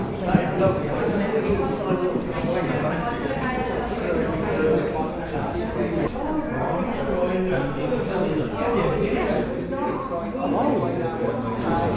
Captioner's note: background noise — people chatting